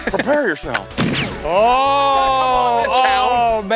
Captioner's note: pew